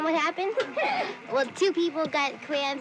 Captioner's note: laughter